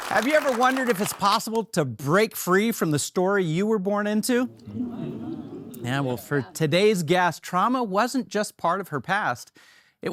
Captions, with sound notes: - Have you ever wondered if it's possible to break free from the story you were born into? (audience affirming) Yeah, well, for today's guest, trauma wasn't just part of her past.